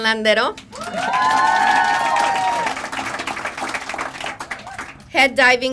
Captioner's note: crowd applauding; crowd cheering